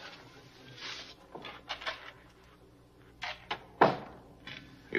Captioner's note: door opening; door closing